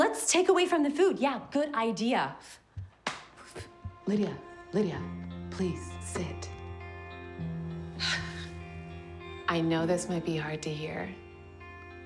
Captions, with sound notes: Let's take away from the food! Yeah, good idea! (scoffing) - Lidia, Lidia. Please, sit. (Kate sighs) I know this might be hard to hear...